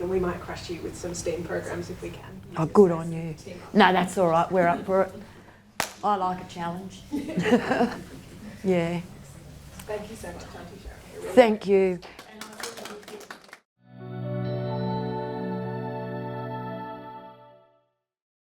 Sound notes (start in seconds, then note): 12.0 audience applauding; 13.9 light music